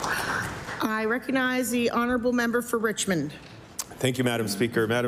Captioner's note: applause